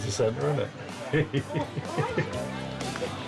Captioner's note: laughs